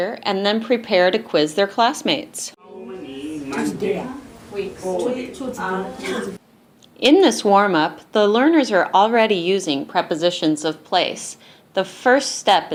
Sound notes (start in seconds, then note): 2.8 multiple students reading in broken English